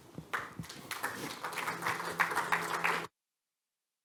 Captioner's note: applause